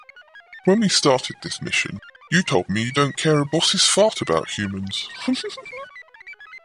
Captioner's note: laughs